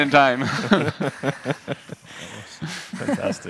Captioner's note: panel laughing